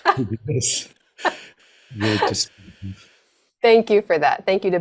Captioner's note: laughs